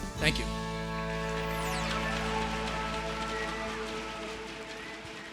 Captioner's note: applause